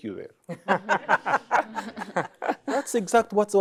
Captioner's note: laughter